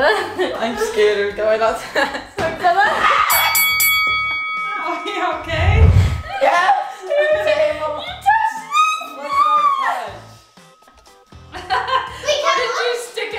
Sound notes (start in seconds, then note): 3.0 screams; 3.3 fighting bell rings; 10.9 laughing